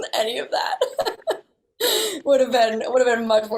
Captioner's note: laughs; all laughing